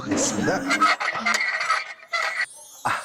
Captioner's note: direction-adjusting sound